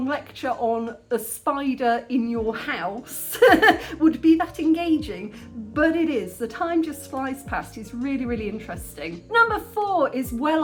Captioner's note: laughing